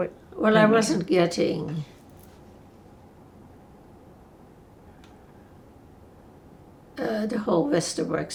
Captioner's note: pauses 6 seconds